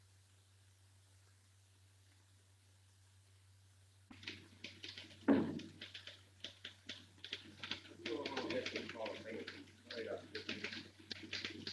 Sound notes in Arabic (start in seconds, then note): 4.5 نقرات على مفاتيح الآلة الكاتبة; 7.9 الناس يتحادثون